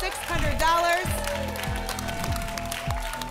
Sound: applause and cheering

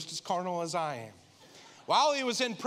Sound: congregation laughing

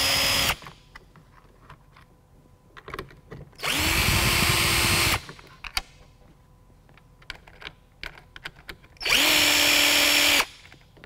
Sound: drilling sound

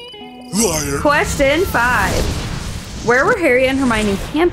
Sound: lighthearted music; explosion noise

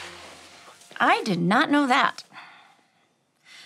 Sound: sighing

